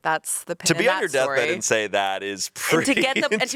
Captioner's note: laughs